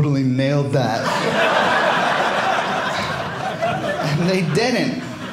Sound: audience laughing

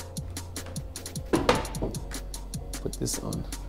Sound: pan clatters

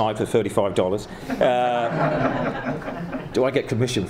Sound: laughing

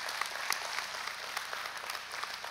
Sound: applause

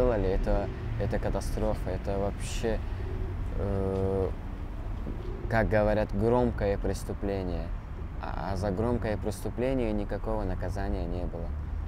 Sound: speaking russian

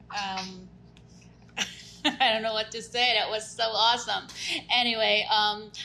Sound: laughs

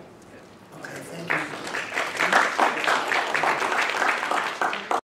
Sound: audience applauding

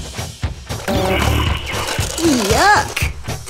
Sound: fart sound

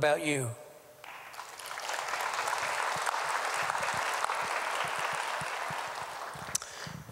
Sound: applause

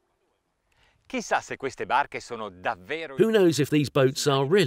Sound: speaking in foreign language

